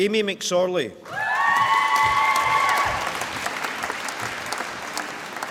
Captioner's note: applause